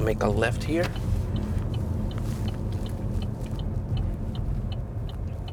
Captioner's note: car turn signal clicking